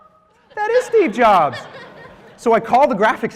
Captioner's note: laughter